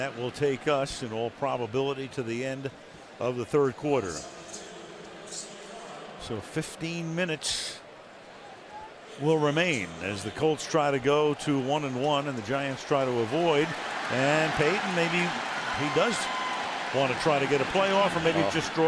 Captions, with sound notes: And that will take us in all probability to the end of the third quarter. [pa announcement] So 15 minutes will remain as the Colts try to go to 1 and 1. And the Giants try to avoid-- and Peyton, maybe he does want to try to get a play off or maybe--